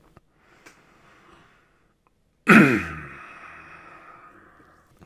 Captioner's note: breathing and clearing throat